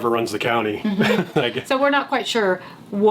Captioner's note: laughing